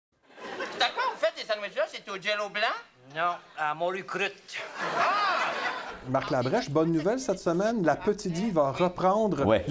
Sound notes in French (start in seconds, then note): 2.0 rires du public; 8.3 rires du public